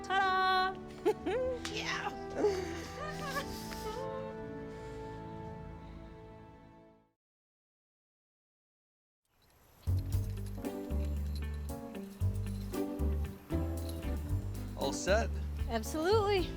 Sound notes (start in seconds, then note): 0.1 laughing; 2.4 mocks fanfare, then whimpers